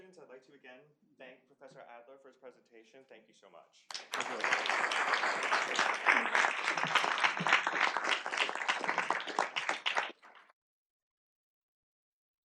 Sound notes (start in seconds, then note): 3.9 applause